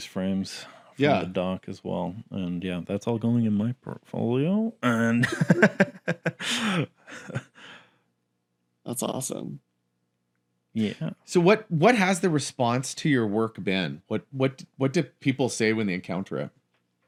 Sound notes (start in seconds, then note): 4.9 grunts then laughs